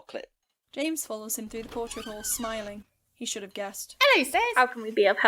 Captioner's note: door opens